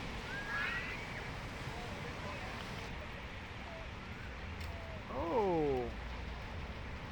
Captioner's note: water flowing